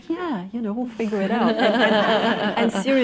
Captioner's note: laughter